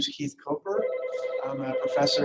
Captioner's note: phone ringing